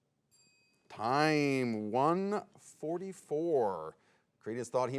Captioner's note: bell dings